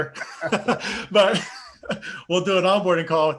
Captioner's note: laughing together